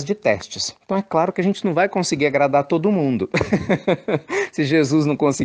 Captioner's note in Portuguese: Risos